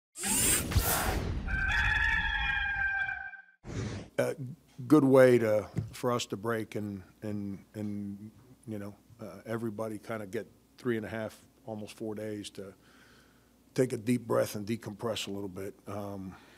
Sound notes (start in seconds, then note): 1.4 rooster Sound